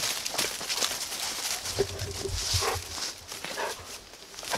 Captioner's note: rustling leaves